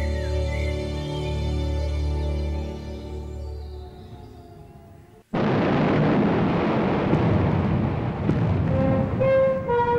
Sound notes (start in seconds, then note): 1.5 distant siren; 5.3 explosions